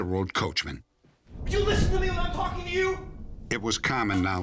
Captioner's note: shouting